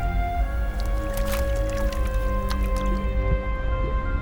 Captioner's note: ominous music; water sloshes; ominous music